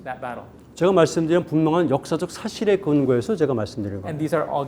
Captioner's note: speaking in Korean